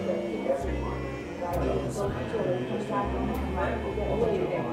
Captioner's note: light chatter